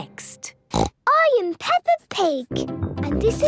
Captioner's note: snorts